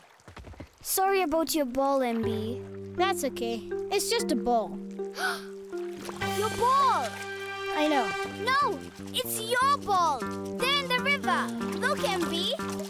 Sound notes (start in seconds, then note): 5.1 gasps